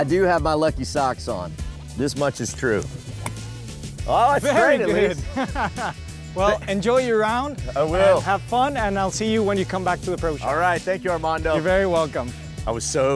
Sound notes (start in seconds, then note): 4.3 chuckles